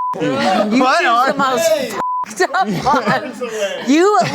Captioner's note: beep